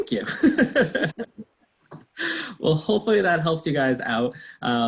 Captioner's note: laughs